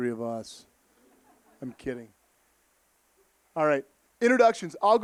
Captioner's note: audience laughing